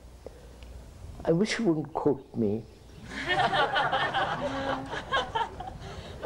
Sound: laughter

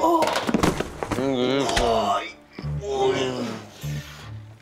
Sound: moans; both moan

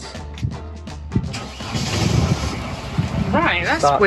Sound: engines starts

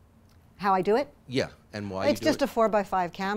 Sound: voiceover

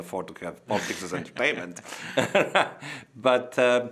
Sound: both laughing

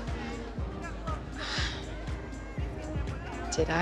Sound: sighs

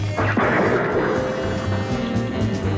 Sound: thunder

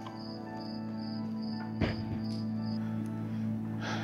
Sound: crickets chirping

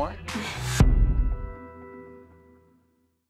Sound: whooshing

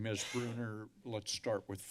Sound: coughing

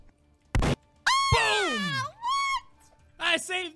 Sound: gunshot

